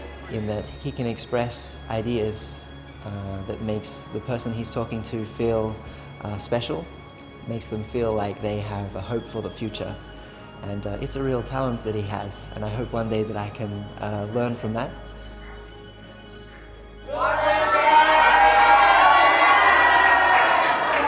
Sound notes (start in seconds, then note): 17.0 all shout, cheer